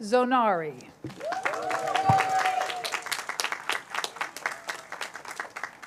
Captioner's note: cheers, applause